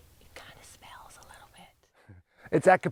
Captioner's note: whispers